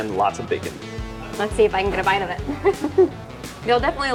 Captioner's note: chuckling